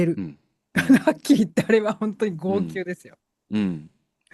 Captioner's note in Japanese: 笑い